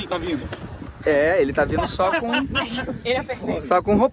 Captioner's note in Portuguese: risos